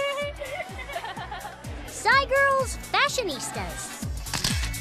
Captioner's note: all laugh